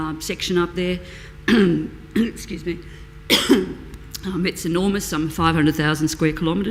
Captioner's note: coughing